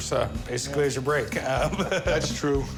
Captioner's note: laugh